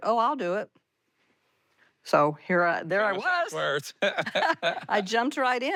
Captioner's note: both laugh